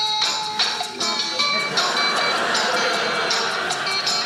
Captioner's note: audience laughing